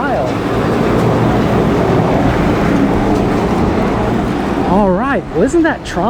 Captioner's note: machine whirring